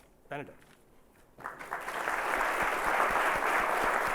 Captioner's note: applause